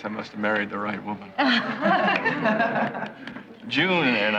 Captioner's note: laughing